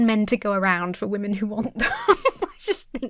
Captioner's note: laughs